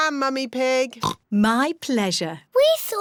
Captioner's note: oinks